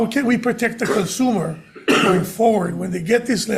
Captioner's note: speaker coughing